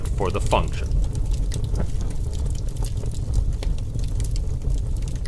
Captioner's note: fire blaze roaring